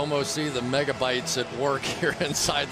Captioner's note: pa announcement